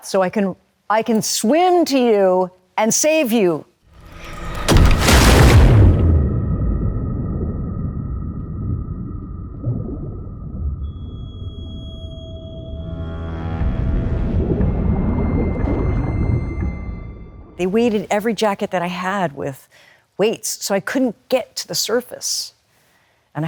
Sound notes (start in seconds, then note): 4.0 dramatic music; 10.3 water burbling